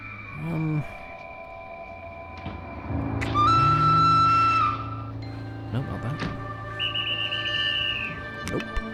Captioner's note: train Whistle Blows